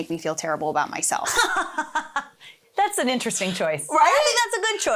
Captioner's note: laughing